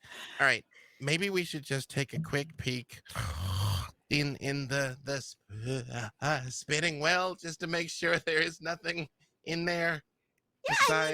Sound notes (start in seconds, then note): 3.1 groans; 5.5 gagging